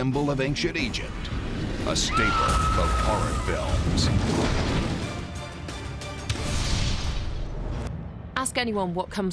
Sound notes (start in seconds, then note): 2.1 woman screaming